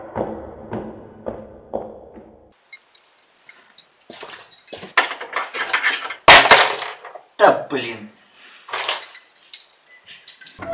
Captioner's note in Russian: Звуки возни